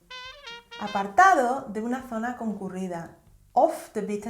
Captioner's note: Spanish